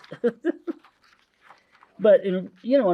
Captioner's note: laughs; paper crinkling